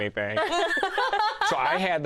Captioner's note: laughter